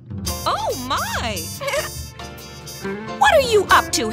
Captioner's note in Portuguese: risos